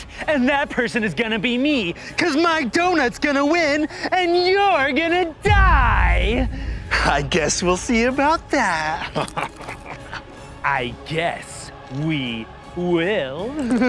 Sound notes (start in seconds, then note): 8.9 laughs; 9.2 baguette crunches